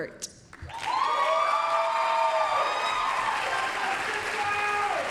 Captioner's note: applause, cheering